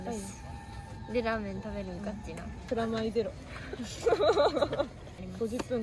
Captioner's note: laugh